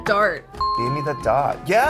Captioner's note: dinging